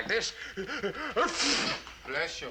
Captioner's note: sneezing